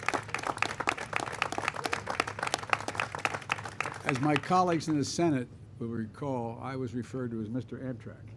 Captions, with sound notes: (applause) -- as my colleagues in the Senate will recall, I was referred to as “Mr. Amtrak.”